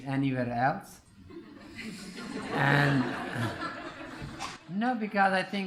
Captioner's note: laughter